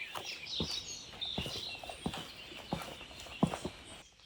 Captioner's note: birds chirping